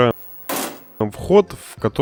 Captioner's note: bang